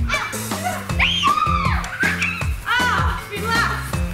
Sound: screaming

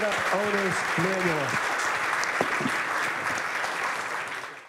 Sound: applause

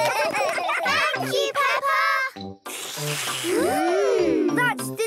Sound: all slurping

